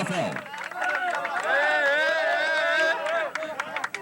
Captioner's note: cheers of celebration